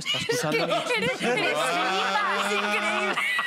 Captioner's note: laughs